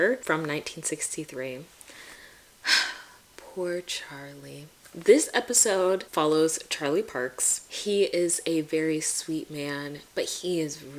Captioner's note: sigh